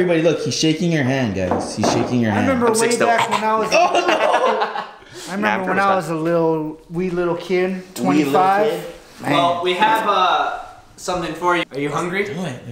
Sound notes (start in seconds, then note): 2.5 coughs